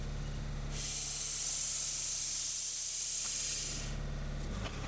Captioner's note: saw whizzing; engine roaring